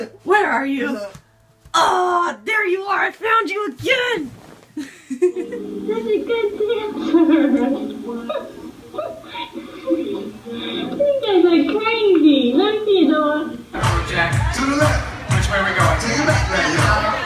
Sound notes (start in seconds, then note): 6.2 children laughing; 13.8 dance music